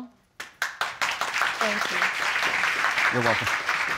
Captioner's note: audience applauding